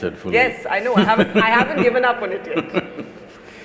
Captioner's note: Sadhguru laughs